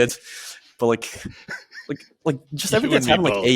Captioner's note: laughs